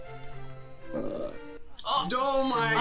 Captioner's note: Willy burps